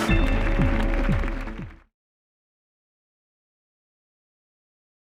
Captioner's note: audience clapping